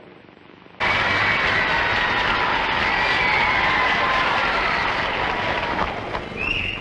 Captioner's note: screams and applause